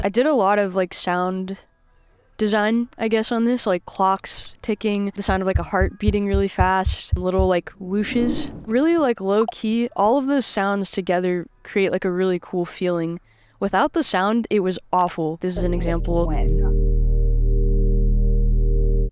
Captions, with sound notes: - I did a lot of, like, sound design, I guess, on this, like clocks ticking, (clock ticks) the sound of a heart beating really fast, little whooshes, really low key. All of those sounds together create, like, a really cool feeling. Without the sound, it was awful. This is an example. - As to when.